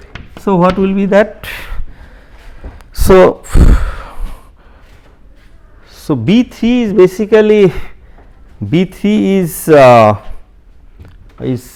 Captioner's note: vocalised noise